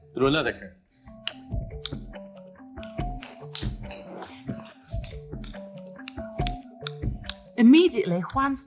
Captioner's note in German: macht Klicklaute